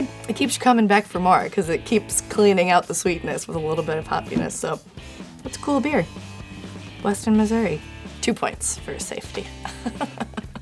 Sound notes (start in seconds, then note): 9.5 laughs